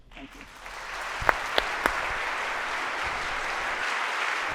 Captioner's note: audience applauds